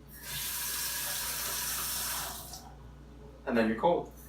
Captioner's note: water runs